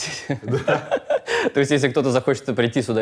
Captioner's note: both laugh